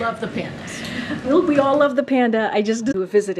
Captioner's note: laughs; laughter